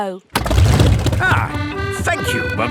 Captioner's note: boat engine revs; kids giggling